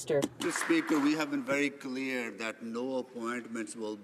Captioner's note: applause